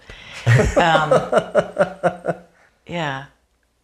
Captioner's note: laughing